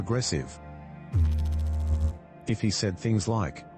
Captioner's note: electrical noise